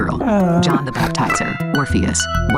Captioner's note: MaleV chortles